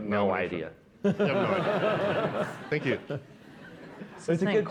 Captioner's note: laughter